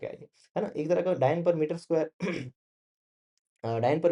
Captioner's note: sound of clearing throat